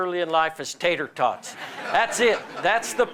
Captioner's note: laughter